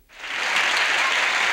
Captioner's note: audience applauds